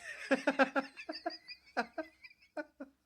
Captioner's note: laughing